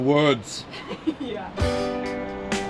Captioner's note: laughs; upbeat music